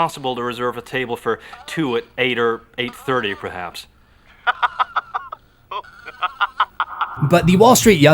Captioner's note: laughter